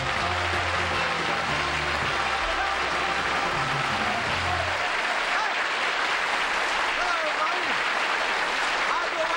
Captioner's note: applause